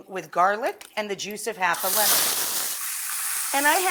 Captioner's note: shrimp sizzling